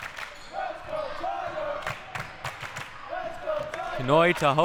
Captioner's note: clapping; clapping